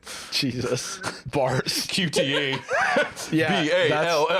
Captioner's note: laughing